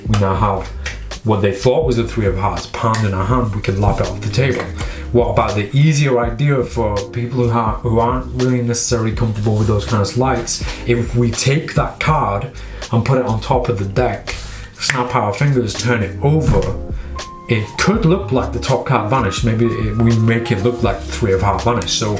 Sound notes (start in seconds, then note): 14.8 snapping fingers